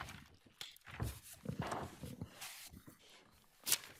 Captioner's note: paper rustling